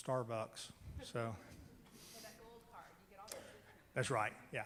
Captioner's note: female murmur